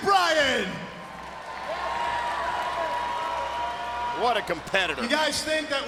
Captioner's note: crowd cheering